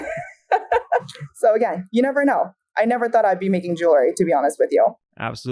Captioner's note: laughs